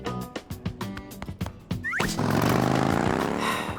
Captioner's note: motorbike engine whirs